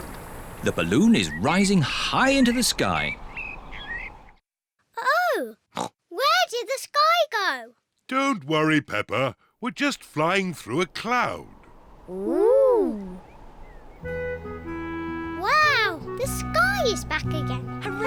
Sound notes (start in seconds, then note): 5.7 oinks